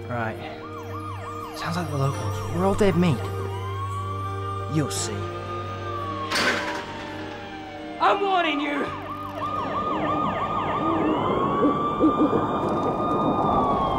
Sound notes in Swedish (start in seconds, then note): 6.2 sirener skriker